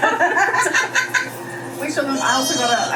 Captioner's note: both laughing